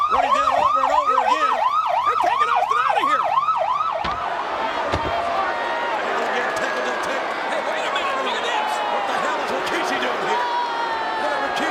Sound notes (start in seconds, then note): 3.8 head thuds; 4.3 audience chattering